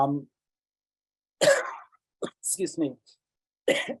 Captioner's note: coughs